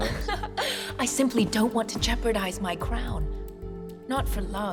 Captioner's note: laughs